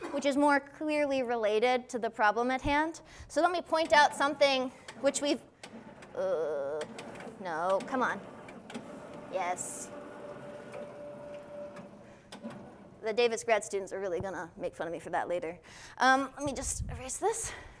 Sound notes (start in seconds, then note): 5.6 groans; 6.8 board humming